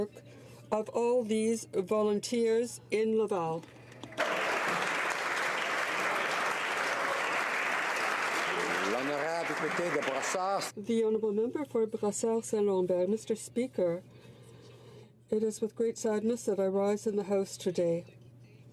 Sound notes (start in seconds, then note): 8.3 applause